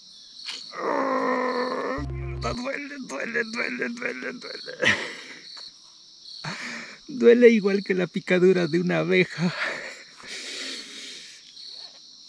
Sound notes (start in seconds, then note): 0.7 pain sound